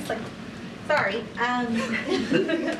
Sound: laughter

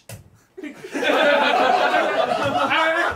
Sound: all laughing; all chattering

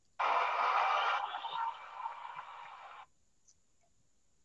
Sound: crowd applauds

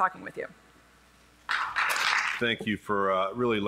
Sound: applause

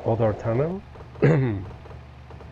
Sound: cough

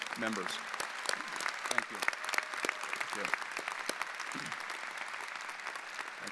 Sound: audience applauding

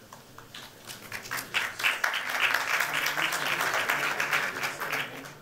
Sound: applause

